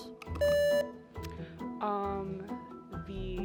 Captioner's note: buzzer beeps